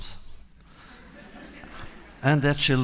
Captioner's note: laughter